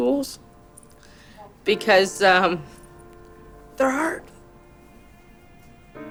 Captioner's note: welling up